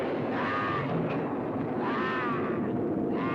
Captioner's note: screaming